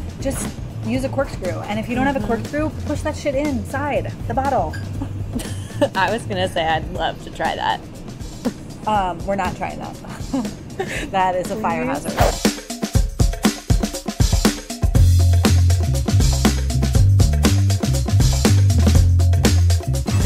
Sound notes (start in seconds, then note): 12.0 air whooshing; 13.4 upbeat music